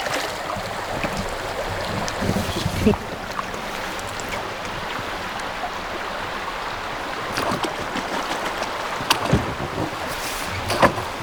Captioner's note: water splashing